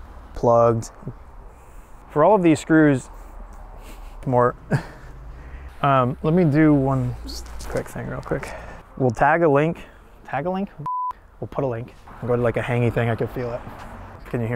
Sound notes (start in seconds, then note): 4.6 laughs; 10.8 beep